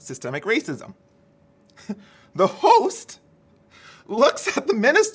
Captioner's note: chuckles